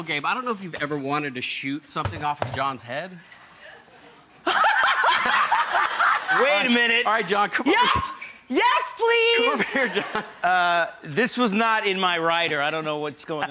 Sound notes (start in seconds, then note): 3.2 laughing